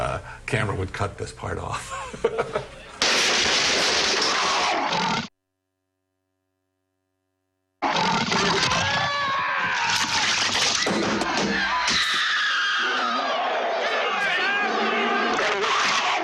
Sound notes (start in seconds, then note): 11.8 screaming; 12.2 roaring